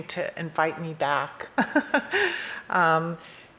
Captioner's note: laughs